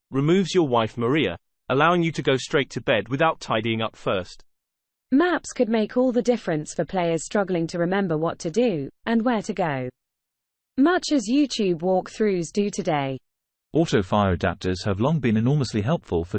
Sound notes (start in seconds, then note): 4.8 british female voice; 13.4 british male voice